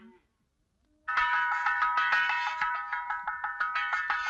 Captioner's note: pan clanging